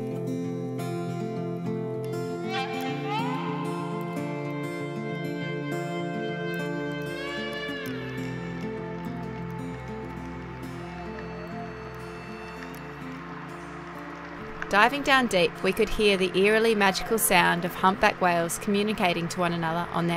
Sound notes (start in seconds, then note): 8.6 water running; 10.9 whale call